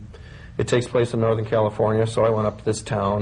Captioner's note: none